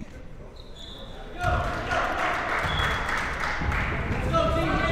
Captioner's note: coach yelling